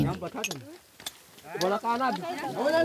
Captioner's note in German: Stimmengewirr